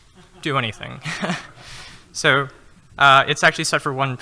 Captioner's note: laughing